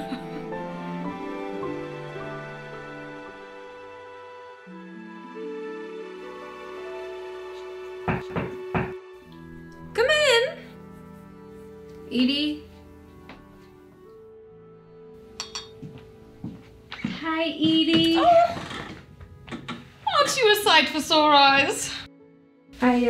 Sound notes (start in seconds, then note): 4.0 light music; 8.1 knocks